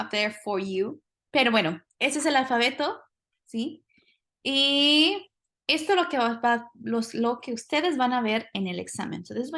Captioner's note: speaking spanish